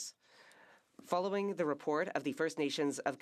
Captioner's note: speaking French